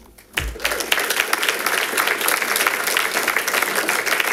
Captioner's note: audience applauding